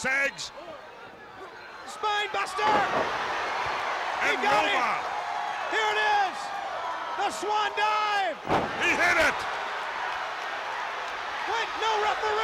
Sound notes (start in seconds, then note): 5.3 crowd cheering